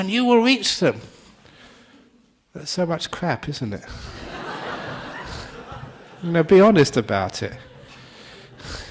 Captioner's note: laughter